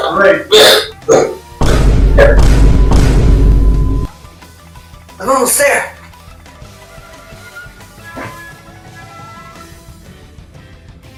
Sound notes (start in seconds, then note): 1.6 boom x3; 1.6 boom x2; 1.6 boom